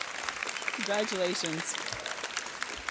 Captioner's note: audience clapping